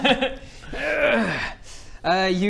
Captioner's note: hrrrgghh!